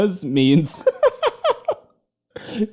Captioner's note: laughter